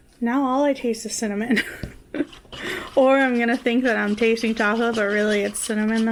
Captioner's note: laughs